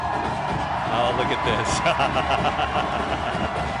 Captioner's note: chuckles